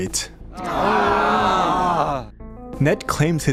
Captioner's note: groans